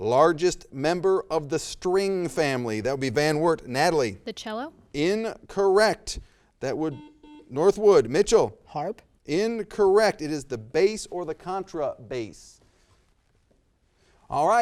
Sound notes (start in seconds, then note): 6.9 buzzer